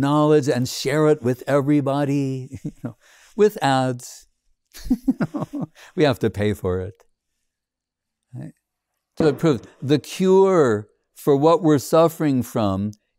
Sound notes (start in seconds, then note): 4.8 laughs